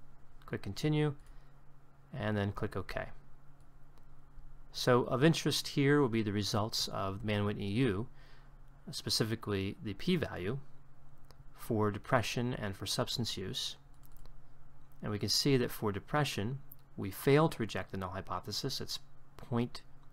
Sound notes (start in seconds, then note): 3.9 click